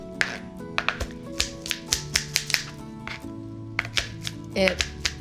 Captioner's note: knife clacking